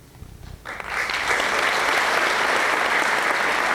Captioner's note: applause